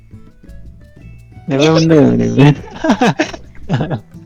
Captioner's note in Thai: หัวเราะ